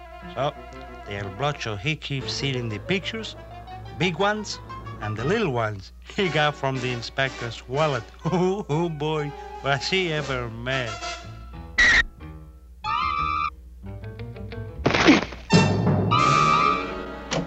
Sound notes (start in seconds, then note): 8.2 chuckling